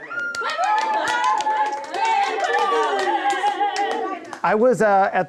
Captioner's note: indistinct cheering